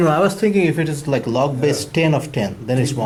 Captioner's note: voiceover